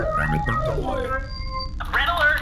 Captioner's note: transmission starts